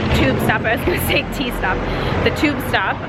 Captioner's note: laughs